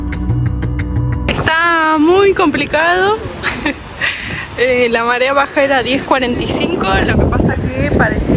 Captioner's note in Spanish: risas